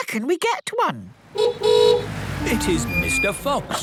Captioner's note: horn honking